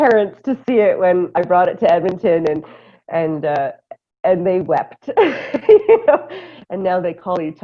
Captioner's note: laughter